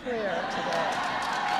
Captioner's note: laughter and applause